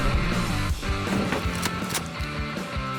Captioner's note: ker-plunk